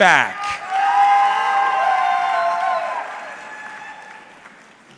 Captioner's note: audience cheering